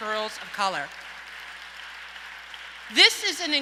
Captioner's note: audience applauds and cheers